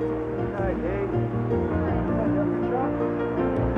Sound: muffled chatter

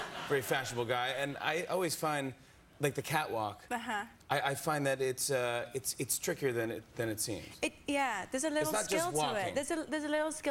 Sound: laughter

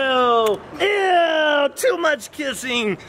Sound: lips smack

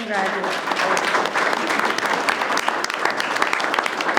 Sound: group applauds

